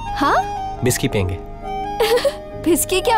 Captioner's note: Laughs